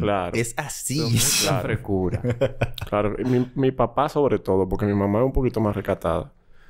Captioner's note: laughs